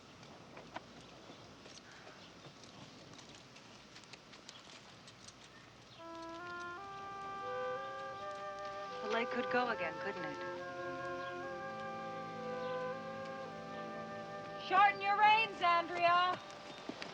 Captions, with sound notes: (warm music) - [Pat] The leg could go again, couldn't it? Shorten your reins, Andrea!